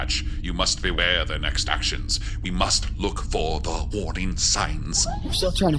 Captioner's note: urgent emphasis